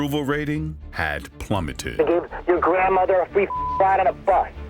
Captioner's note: beep